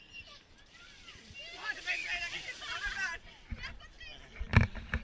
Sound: people clamouring

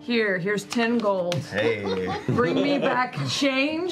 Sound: laughter

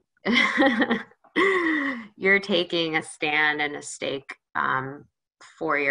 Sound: laughs

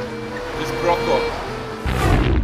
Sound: speaking in native language; rhythmic music playing

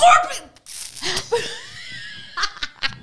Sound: spit noises; both laughing

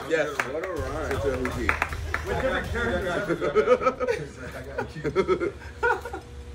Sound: laugh

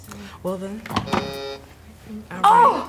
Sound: button buzzes

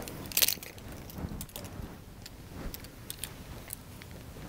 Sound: wires rustle

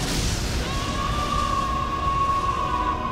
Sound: screaming

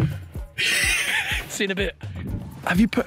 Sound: Harry laughing

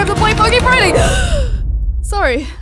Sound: gasp

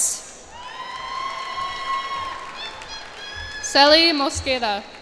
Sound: cheers and applause

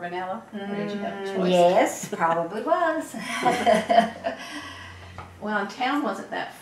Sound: laughs

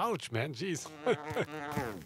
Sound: laughs

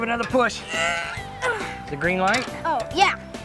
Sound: grunting

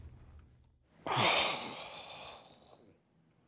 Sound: exhales deeply

